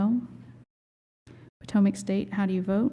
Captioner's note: silence